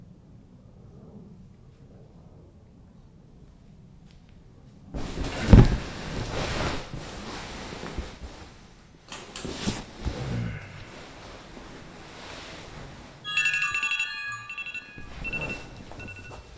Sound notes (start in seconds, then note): 10.2 Manny groans; 13.2 phone jingle